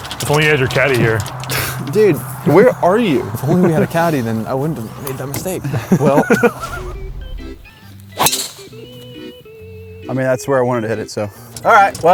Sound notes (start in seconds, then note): 6.1 laughs